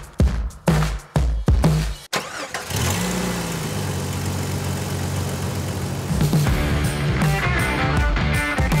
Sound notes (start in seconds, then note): 2.1 car engine roars; 6.0 rock music